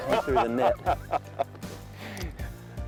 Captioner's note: laughs